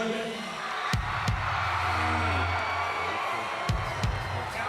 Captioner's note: audience cheering